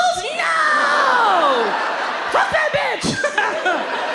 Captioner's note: audience laughs